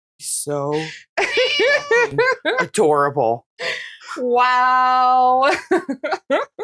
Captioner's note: meow